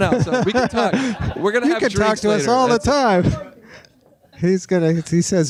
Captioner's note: laughing